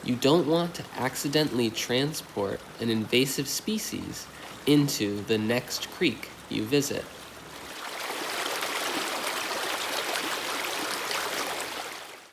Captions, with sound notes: You don't want to accidentally transport an invasive species into the next creek you visit. (water splashing)